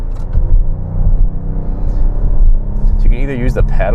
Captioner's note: engine revving